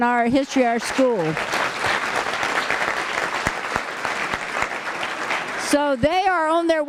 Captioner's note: applause